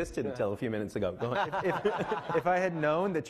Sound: laughing

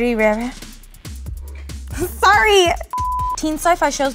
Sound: scoffing in the background

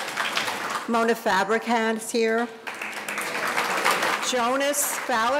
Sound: audience applauding

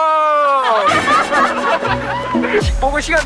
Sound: hurt

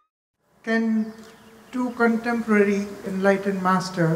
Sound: none

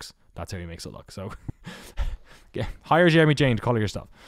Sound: laughs

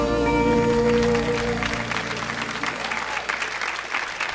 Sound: audience applauds

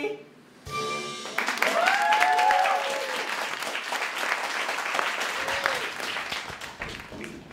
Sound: audience cheering

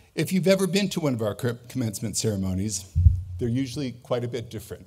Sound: none

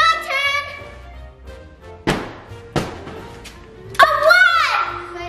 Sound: giant cube hits floor

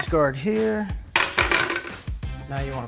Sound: cheese guard clatters

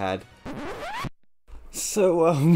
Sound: record Scratch

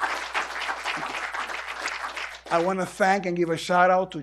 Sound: applause

